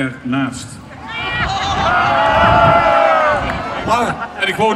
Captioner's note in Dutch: algehele hilariteit publiek